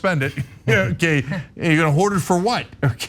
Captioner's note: laugh